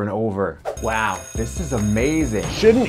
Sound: bell ringing

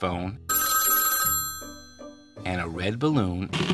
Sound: phone ringing

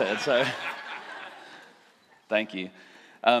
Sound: laughter

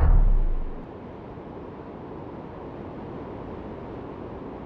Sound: wind blowing

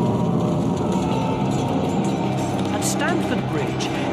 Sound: dramatic music; fire crackling; suspenseful music; men shouting

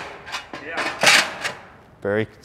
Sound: metal chinking

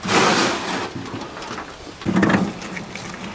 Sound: banging

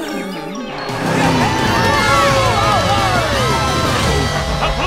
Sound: cheering

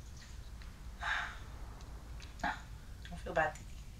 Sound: sighing

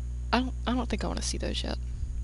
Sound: none

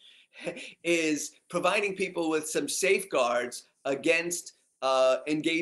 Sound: laugh

